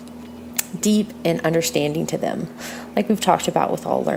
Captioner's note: breathe out and lip smack